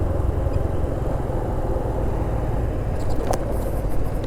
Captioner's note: motorcycle sound